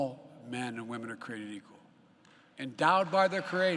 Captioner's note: applause